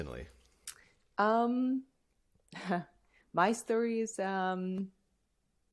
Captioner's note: laughter